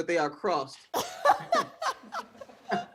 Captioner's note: laughs